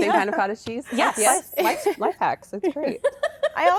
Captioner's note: laughter